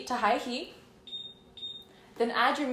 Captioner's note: beep beep